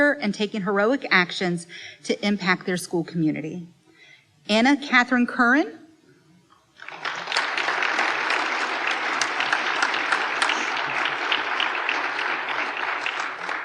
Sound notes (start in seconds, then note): 6.8 applause